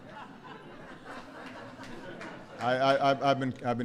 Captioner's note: laughter